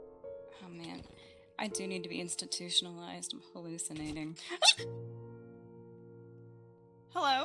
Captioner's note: yelps